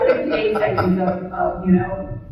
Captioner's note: audience member laughs